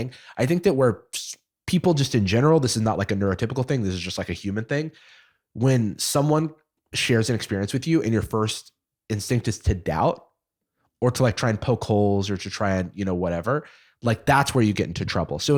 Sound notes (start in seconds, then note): none